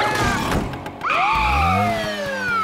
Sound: siren blaring

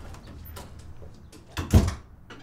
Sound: door closes

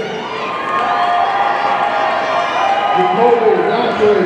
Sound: audience cheering

